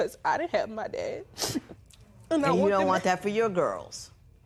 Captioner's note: sniffles